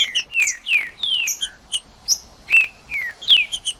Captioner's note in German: trinca ferro cantando